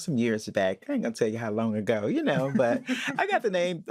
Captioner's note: both laugh